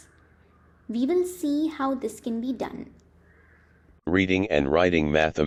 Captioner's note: screen reading software narration